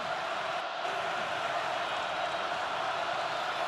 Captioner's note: crowd cheering